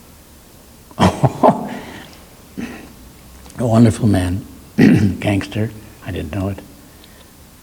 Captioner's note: laughs